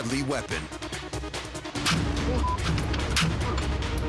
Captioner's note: gun firing